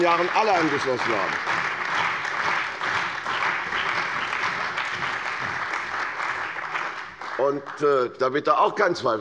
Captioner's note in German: Beifall bei der CDU und dem BÜNDNIS 90/DIE GRÜNEN